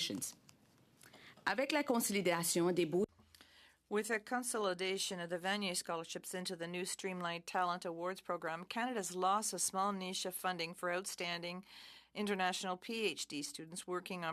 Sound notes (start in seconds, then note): 4.7 speaking in French